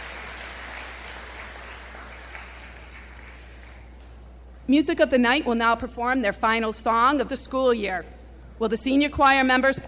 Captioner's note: applause